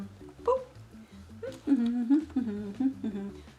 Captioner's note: hums